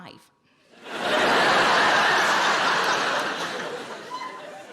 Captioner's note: audience laughing